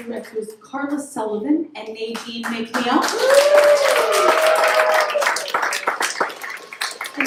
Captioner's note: applause